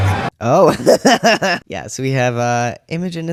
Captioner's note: laughter